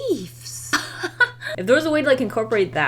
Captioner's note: laughs